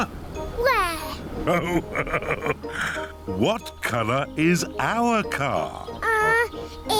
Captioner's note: laughs